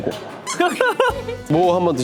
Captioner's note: laughs